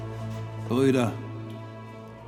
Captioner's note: speaking in German